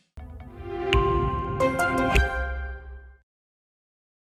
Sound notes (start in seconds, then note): 0.4 Intel bong